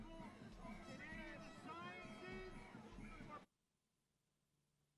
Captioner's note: voices shouting and chattering